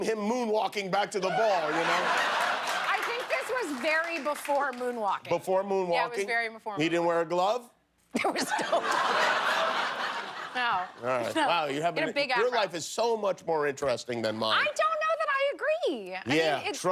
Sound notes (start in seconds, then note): 6.3 laughter; 9.8 laughter